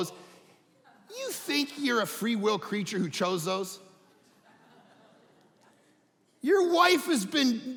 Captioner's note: audience laughing